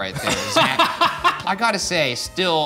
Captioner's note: laughing